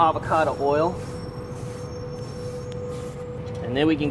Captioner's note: rubbing